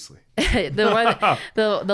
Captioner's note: both laughing